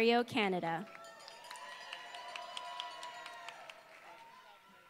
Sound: applause

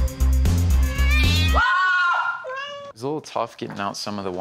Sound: meowing; screaming

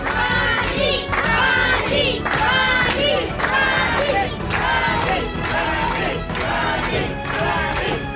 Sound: crowd

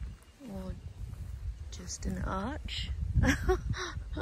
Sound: laughs

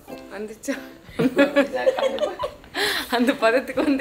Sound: laughs

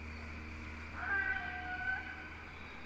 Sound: squawking

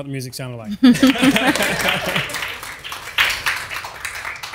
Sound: audience applauds

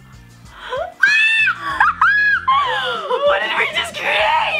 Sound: screaming laugh

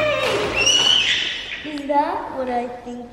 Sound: baby squealing

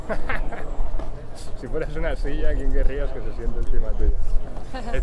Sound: man laughs softly; man speaking in foreign language; woman laughs softly

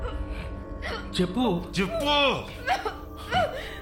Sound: whispering

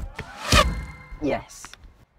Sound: thwack

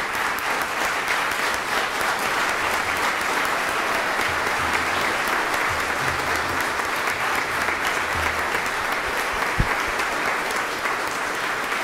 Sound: applause

